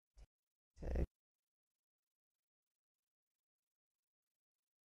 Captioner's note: silence